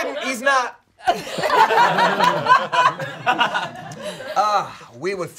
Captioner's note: all laughing